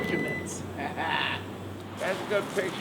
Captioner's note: laughing